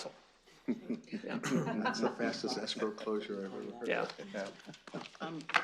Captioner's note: laughter